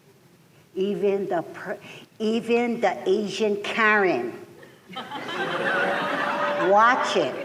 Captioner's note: laughter